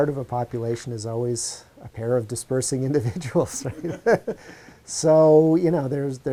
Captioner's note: chuckles